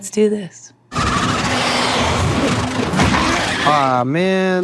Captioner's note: bats squawking